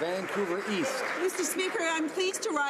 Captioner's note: some Applause